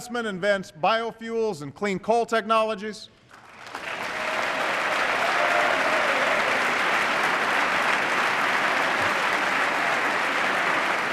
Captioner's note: applause